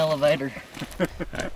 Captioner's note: laughing